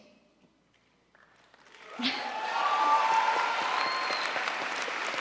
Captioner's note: crowd applauds